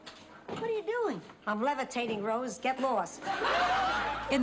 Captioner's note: laughs